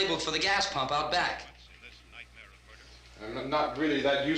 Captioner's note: murmuring